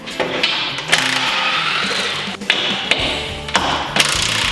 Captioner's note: drilling